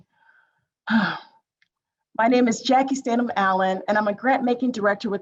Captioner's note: sighs